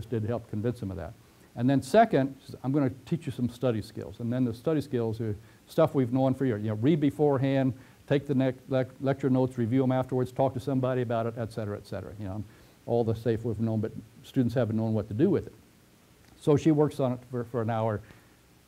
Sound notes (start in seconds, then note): 16.0 pause